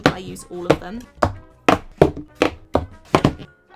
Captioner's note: paint tubes hitting desk